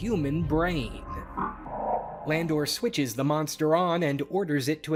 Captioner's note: robotic groaning